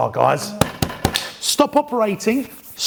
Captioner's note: thumping